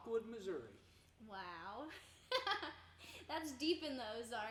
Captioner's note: laughing